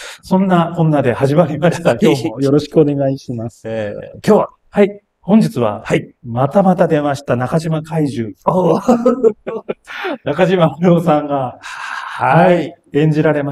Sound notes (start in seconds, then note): 8.5 laughs